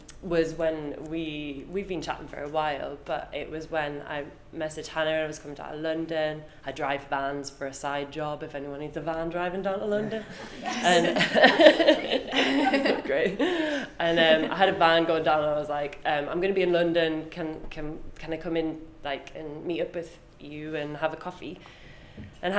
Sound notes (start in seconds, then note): 9.9 group laughs